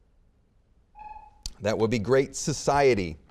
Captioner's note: buzzer beeping